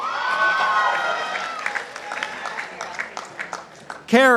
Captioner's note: participants applauding